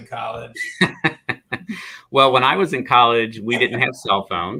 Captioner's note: laughter